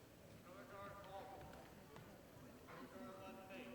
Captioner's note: faint voice